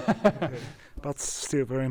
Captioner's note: laughs